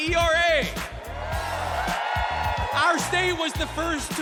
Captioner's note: cheers and applause